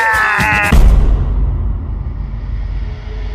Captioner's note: dramatic thud